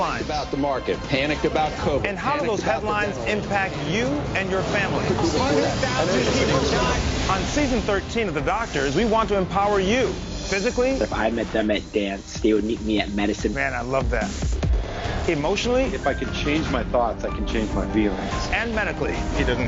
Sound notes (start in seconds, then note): 5.4 voiceover